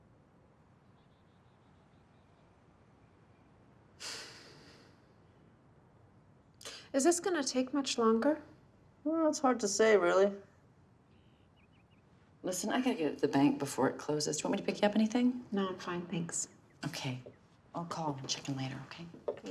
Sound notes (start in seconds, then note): 4.0 sighs